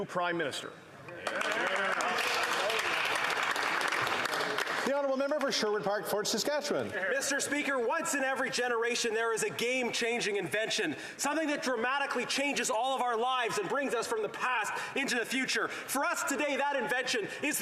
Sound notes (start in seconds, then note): 5.1 applause